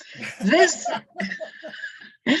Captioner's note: laughter